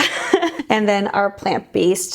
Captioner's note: laughing